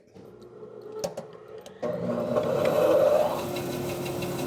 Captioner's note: band saw whirs